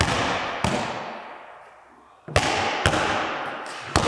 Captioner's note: ball bouncing